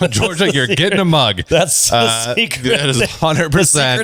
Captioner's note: laughs